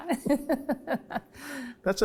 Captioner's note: both laugh